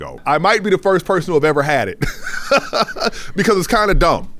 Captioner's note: laughs